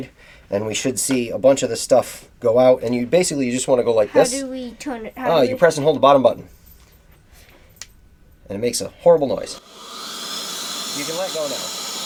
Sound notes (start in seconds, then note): 9.4 air duster whirring